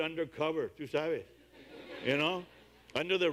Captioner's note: audience laughs